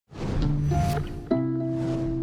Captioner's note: logo whooshing; mellow music